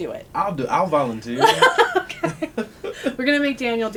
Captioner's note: laughter